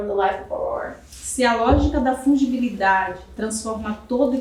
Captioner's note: speaking portuguese